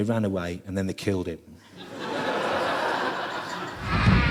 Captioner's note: laughter